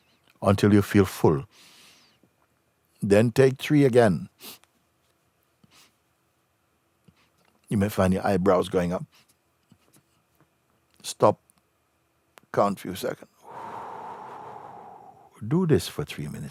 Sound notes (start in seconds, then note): 5.6 inhales three times; 13.4 exhales slowly